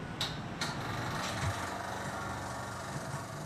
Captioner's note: machinery whirs